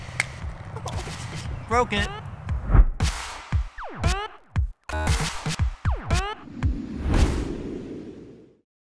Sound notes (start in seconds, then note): 0.0 dramatic music; 0.1 crack; 0.7 laughs; 2.6 whooshing; 3.0 upbeat techno music; 6.5 whooshing